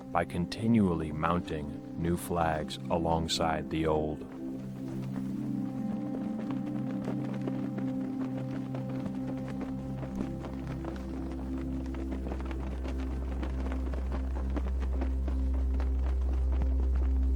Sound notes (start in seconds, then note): 4.7 flags flapping; 4.7 gentle music